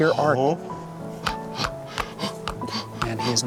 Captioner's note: grunting